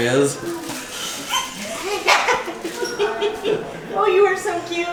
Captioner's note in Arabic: ضحك